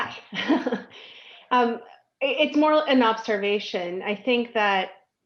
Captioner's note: laughs